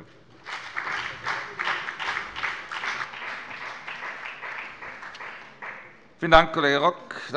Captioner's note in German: Beifall bei der FDP und der SPD